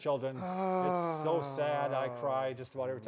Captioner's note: sighs